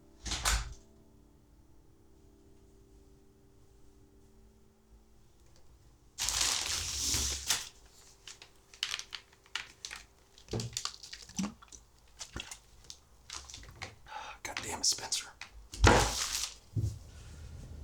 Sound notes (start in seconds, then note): 0.3 door closes; 6.2 paper rustling; 11.3 Spencer gulping